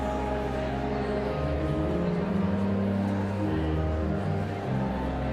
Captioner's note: enigmatic organ music continues; audience chattering continues